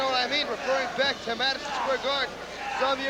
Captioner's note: crowd cheering